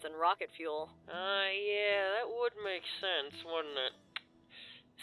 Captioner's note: tsks